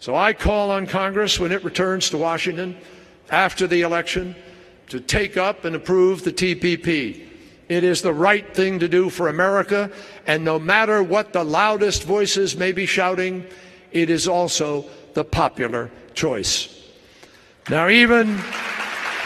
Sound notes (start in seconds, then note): 17.6 applause